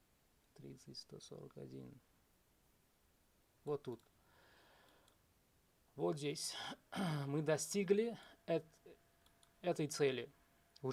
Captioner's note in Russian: откашливается